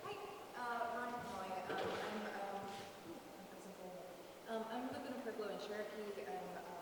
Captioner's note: murmurs